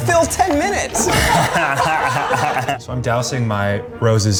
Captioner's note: guys laughing